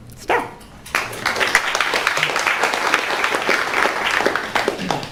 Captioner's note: crowd applauds